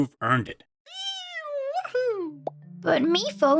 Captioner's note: pop